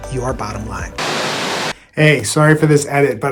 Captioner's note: static hissing